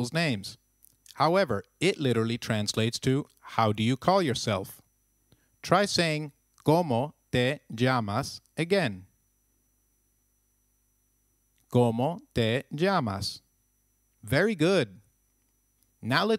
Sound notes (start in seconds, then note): 9.5 long pause